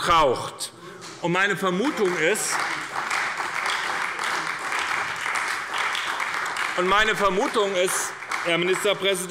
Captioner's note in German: Beifall bei der SPD